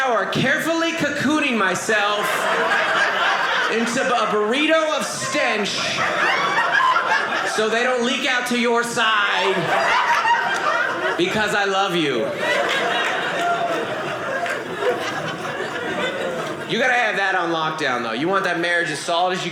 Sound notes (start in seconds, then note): 12.2 audience laughing